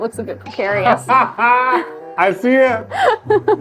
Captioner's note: laughs